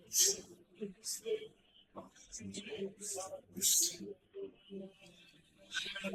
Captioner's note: Catholics praying in foreign language